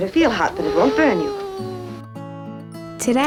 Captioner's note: child groans